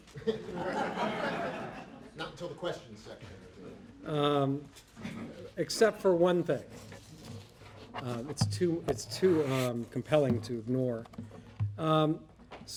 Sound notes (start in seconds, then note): 0.0 audience laughing; 2.5 voiceover